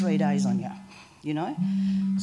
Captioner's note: phone vibration